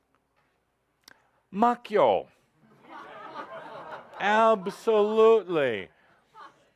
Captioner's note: laughter